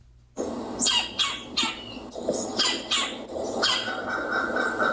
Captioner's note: woodpecker chirping